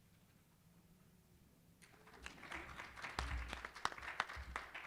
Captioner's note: applause